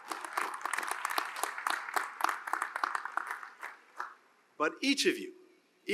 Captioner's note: applause